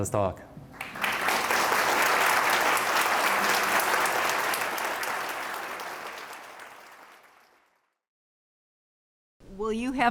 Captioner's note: applause